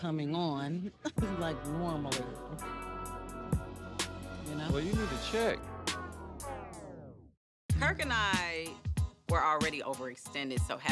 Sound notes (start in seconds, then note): 1.2 romantic music; 7.0 record slows